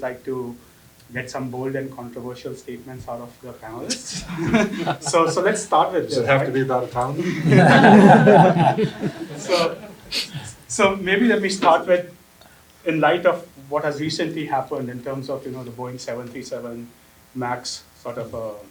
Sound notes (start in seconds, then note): 3.7 laugh